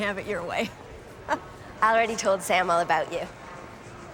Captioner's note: chuckles